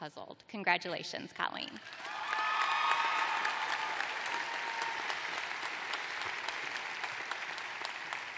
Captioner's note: applause